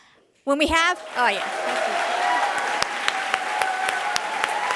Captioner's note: applause